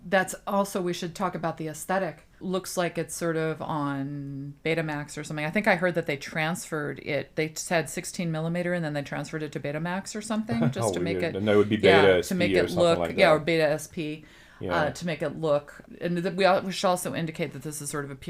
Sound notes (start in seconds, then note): 10.5 laughs